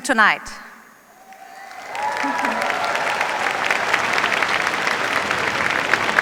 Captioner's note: cheers, applause